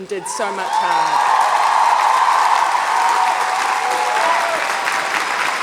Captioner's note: audience applauds and cheers